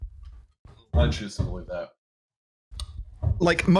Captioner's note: thumping in background